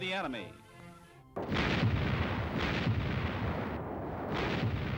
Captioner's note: explosions